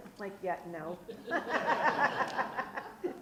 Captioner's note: group laughs